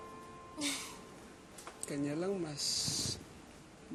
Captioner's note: Yna chuckles